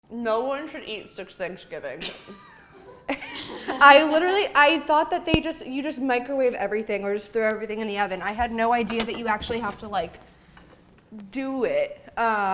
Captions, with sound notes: - No one should eat six Thanksgiving's. (laughing) I literally, I thought that you just microwave everything or just throw everything in the oven. I had no idea that you actually have to like, do it.